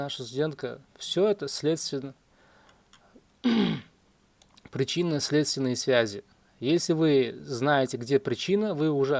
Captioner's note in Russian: откашливается